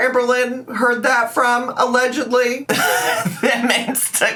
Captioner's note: laughs